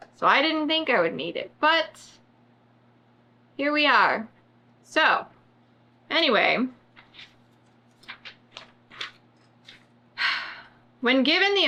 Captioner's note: sighs